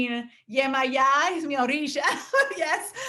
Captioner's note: speaking foreign language